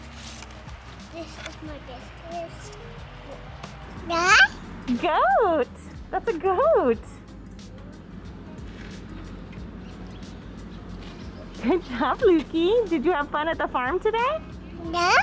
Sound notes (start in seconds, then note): 4.0 baby babbling; 14.8 baby babbling